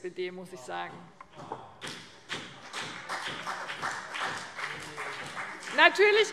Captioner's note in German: Beifall : Oh!